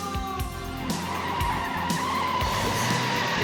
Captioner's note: tires squealing